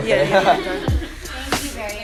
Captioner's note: all: Laugh